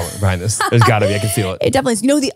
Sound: laughing

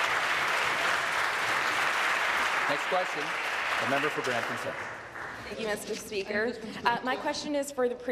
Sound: applause

